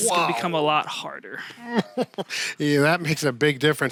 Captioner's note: chuckling